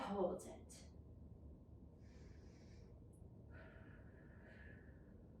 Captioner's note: breathing deeply